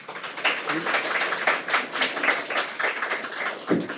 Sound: attendees applaud

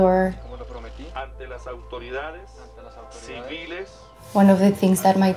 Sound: people speaking in foreign language

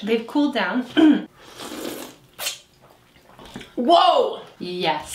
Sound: slurping

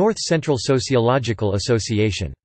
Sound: in German

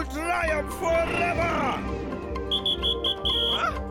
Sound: whistle blowing

